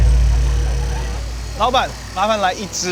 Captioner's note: engine roaring; man speaking foreign language